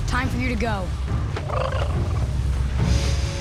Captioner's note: chittering